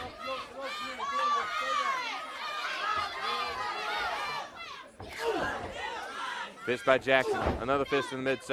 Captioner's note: crowd chatter